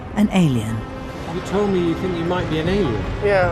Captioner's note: voiceover